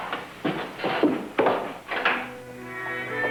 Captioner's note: foot steps